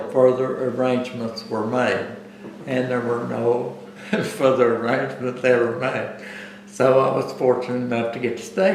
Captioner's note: laughs